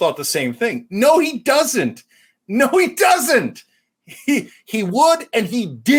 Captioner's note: laugh